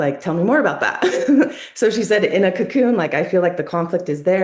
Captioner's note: laughs